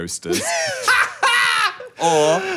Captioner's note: laughs